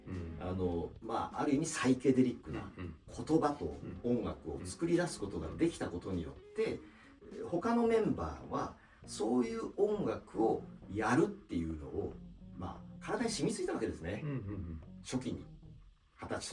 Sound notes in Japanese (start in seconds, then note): 2.7 咳払い